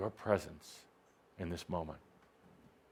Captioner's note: none